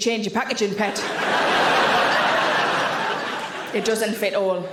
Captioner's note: audience laughing